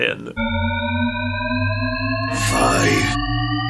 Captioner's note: shepard tone